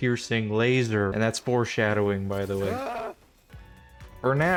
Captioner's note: panicked scream in the background